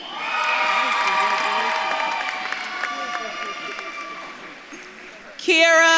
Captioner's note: audience claps and cheers